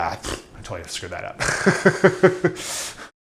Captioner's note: laughs